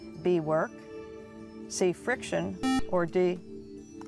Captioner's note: buzzer